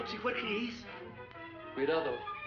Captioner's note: speaking spanish